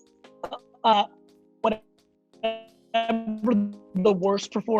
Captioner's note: speech distorted by mike cutting out